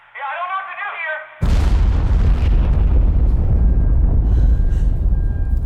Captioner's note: explosive booming; alarm beeps